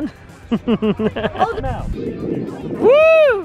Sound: laughs

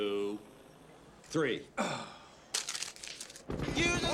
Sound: groans

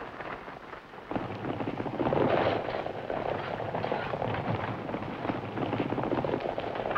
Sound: horses running

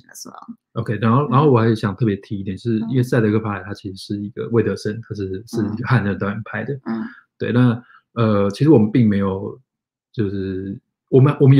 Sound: speaks mandarin

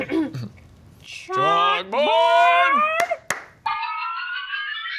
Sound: claps

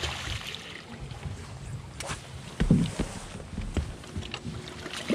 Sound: fish splashing

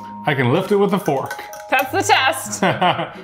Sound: fork clinking; laughing

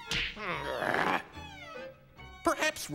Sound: groans

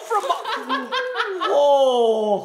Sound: laughing

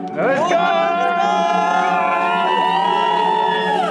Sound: everyone cheering

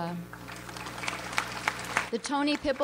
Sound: audience applauds

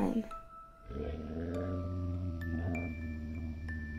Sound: bear growls

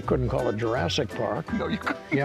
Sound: chuckles

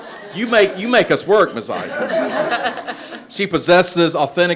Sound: people laugh

